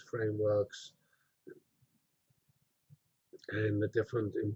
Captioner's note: pause